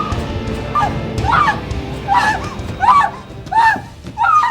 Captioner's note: screams